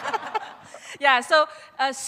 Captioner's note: laughter